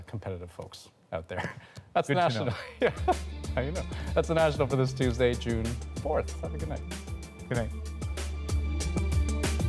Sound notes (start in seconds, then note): 4.0 laughter